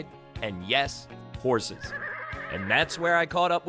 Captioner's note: horse naying